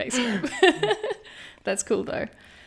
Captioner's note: laughing